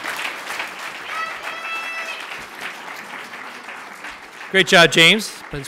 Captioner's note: audience applauds and cheers; audience member yells "yeah ". Applause continues